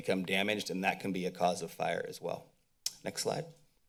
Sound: mouth clicks

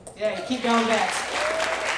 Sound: crowd cheering and applauding

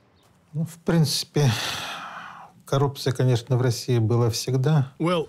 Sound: speaking Russian

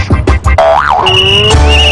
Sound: boing

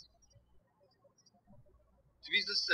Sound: birds chirping

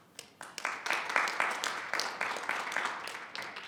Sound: audience clapping

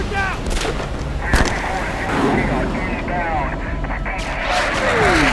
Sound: radio chattering

